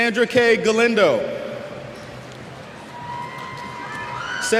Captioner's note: cheers